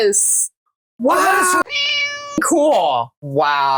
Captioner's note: meow